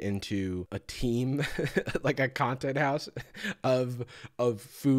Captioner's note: chuckles